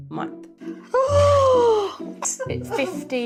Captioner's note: gasps